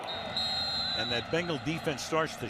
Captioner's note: whistle blowing